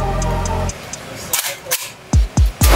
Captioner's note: gun clicking; gun firing